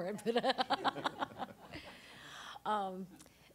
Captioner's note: all laughing